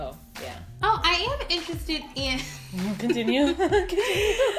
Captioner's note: laughing